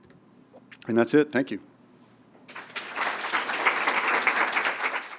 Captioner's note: applause